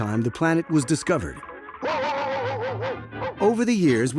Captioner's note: barking furiously